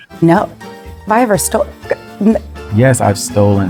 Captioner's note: Gabrielle stammering